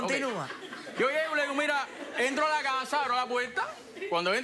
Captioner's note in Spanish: Risas